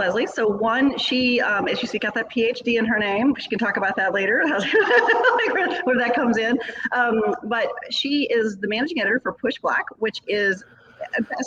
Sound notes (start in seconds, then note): 4.3 laughing